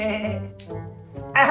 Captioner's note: snip!